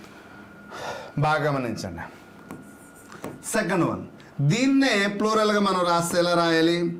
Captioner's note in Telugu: నిట్టూర్పులు